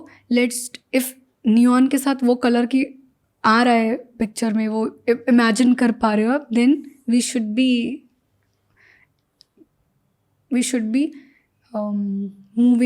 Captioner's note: speaks in Hindi